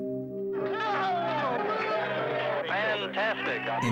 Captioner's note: shouting and cheering